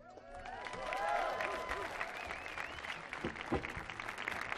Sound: audience applauding

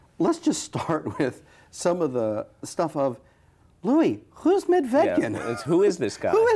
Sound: chuckles

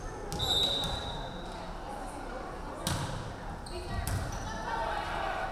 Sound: referee whistling

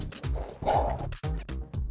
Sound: scoughs

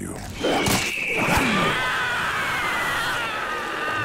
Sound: screaming

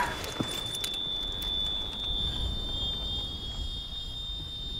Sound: whistling

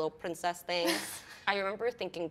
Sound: laughs

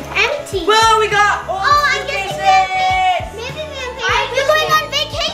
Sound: overlapping chatter

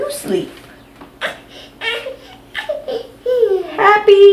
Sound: laughs

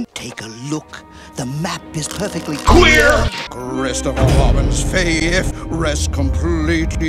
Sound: none

